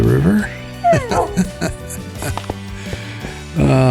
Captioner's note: laughs